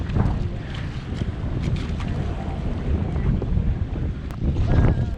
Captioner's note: wind drowning out conversation